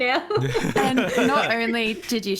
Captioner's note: laughs